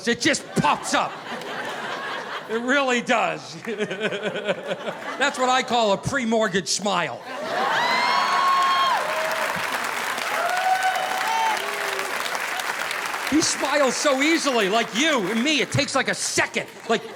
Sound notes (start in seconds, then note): 3.6 laughing; 7.2 audience laughing